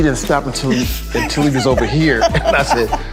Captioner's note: Cameron laughing